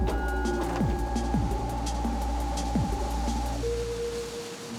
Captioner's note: wind